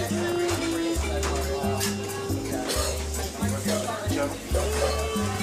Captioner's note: kitchen noises